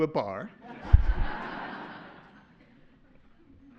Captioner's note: laughter